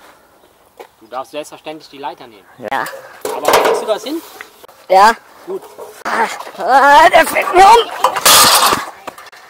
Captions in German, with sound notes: - Du darfst selbstverständlich die Leiter nehmen. - Ja. - Aber kriegst du das hin? - Ja. - Gut. - Ah.. Waaahaaa der fällt mir um! [KRACH]